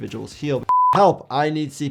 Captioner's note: screen beeps